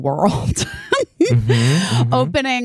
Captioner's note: laughing